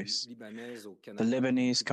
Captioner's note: speaking French